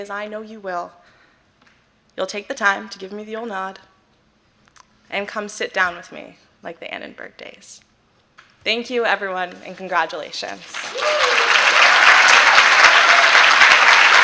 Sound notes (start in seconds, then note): 10.5 applause